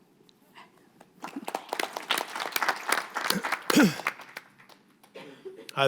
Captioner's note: audience applauding